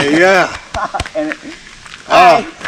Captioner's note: laughs